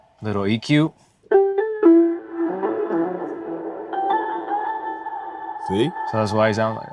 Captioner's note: tones playing